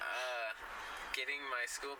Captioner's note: laughs